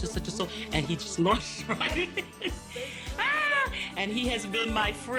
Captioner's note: laughing